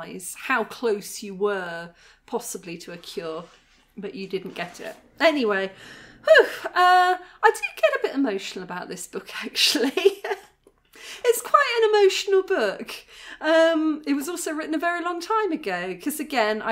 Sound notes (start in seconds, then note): 5.7 sigh; 9.8 laughing